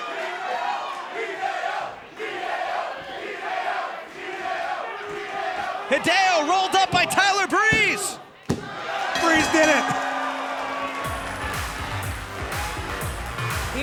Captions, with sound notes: Hideo! Hideo! Hideo! Hideo! Hideo! Hideo! Hideo rolled up by Tyler Breeze. (bell rings) Breeze did it. (energetic dance music)